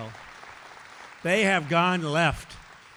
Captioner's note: applause